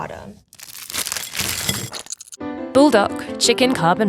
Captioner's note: packaging crinkling